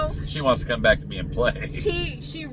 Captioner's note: laughs